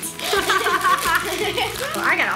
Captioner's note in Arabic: يضحك